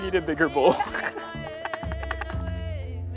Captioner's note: chuckles